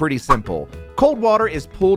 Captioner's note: air whooshing